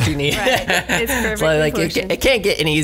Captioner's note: laughs